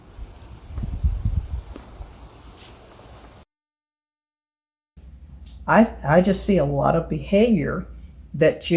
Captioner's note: gentle wind